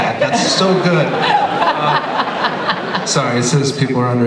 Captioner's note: laughter